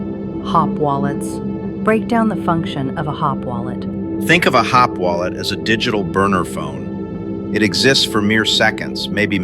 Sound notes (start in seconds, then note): 4.5 excited